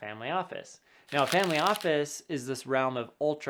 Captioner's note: paper rubbing